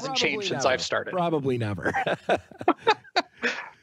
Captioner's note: laughing